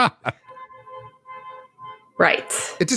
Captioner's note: horn honking